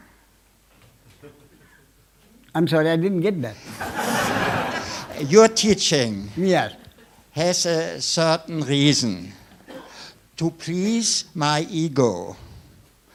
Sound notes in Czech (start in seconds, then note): 3.7 smích